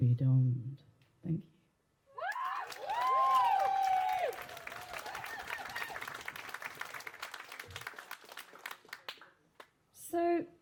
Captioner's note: applause